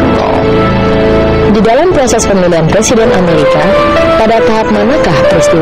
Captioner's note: speaking indonesian